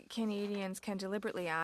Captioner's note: speaking in French